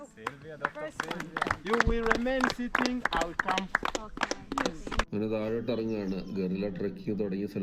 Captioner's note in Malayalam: കരഘോഷം